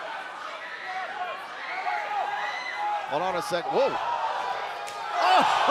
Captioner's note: crowd chatter